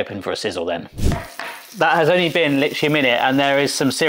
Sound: grill sizzling

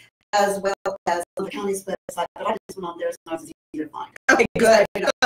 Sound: audio distorts

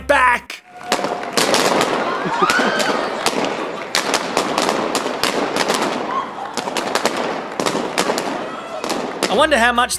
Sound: the sound of every balloon popping

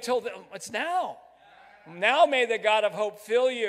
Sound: crowd

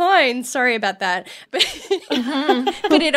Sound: laughing

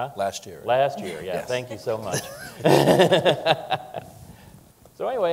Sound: laughing

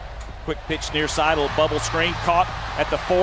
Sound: voiceover

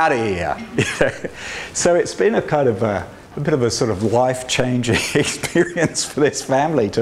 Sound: laughs

